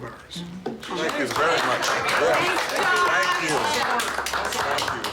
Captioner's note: applause